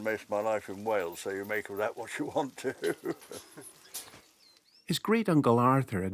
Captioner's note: chuckles